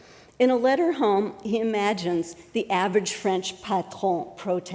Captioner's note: french